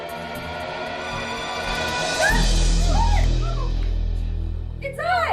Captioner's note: screaming